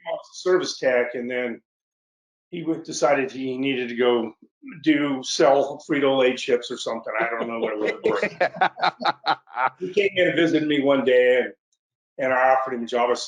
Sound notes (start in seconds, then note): 7.1 laughs